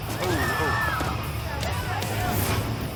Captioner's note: people screaming